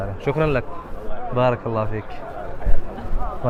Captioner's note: Arabic